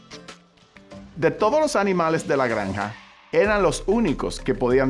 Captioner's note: speaking Spanish